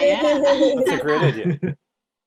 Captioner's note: laughing